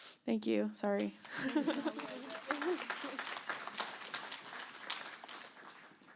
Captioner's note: applause